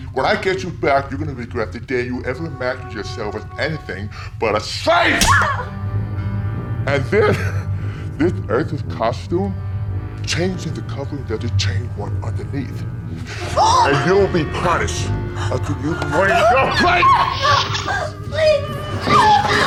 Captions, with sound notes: When I get you back you're gonna regret the day you ever imagined yourself as anything... ...but a slave! And this... ...this Earther's costume? Changing the cover doesn't change what's underneath. [LOLANI SHRIEKS] And you'll be punished... ...until you learn your place. [LOLANI SCREAMS] Please.